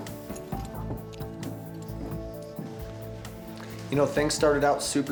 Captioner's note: footsteps